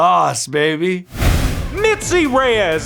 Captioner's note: air whooshing